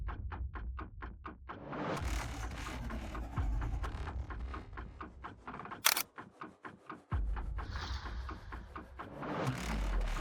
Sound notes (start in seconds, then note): 5.8 phone camera clicking; 7.3 dramatic music